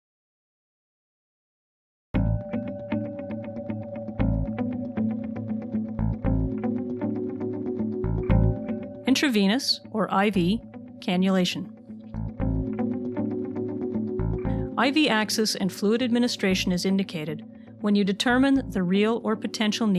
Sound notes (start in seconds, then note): 2.2 upbeat music; 9.3 voiceover